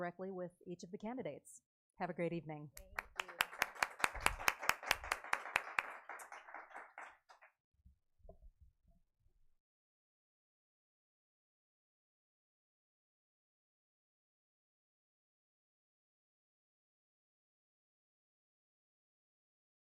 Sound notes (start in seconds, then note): 2.8 clapping